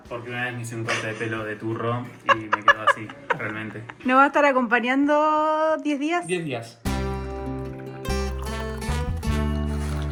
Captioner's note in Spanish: risas